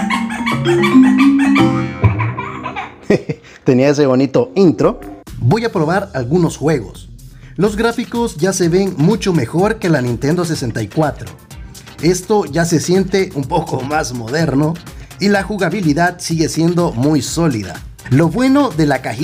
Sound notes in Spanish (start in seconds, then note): 0.1 risas